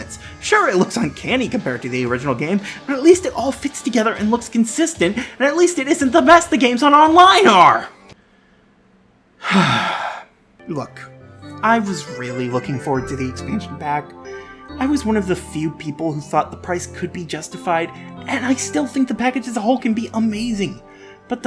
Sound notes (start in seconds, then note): 9.4 sigh